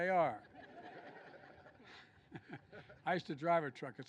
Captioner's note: laughter